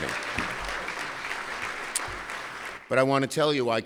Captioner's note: applause